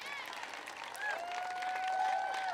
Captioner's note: applause